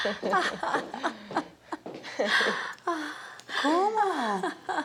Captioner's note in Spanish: Risas